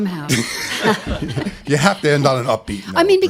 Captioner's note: laughter